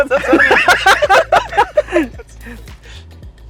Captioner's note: both continue laughing